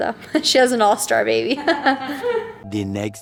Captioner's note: both laugh